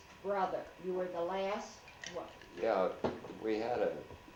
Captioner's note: dining table sounds